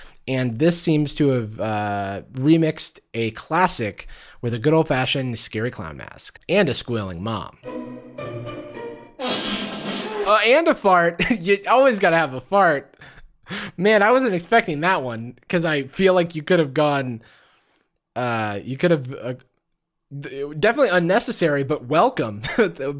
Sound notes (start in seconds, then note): 9.2 fart noise